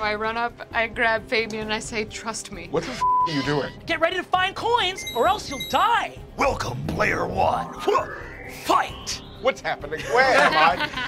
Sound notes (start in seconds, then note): 3.0 beeping